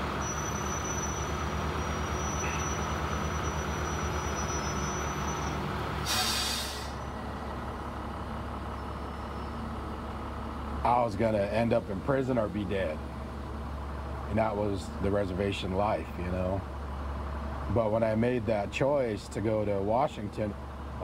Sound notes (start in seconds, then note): 0.0 breaks screeching; 5.9 engine running